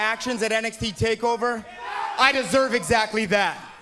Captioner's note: fans chanting